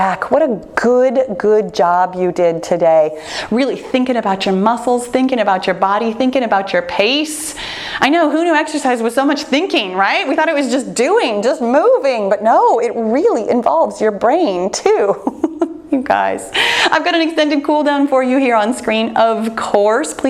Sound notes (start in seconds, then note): 15.1 laughs